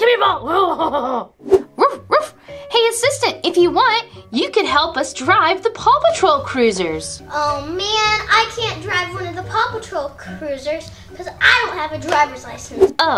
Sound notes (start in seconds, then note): 0.4 laughs; 1.8 dog barking